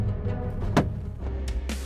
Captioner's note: gun shot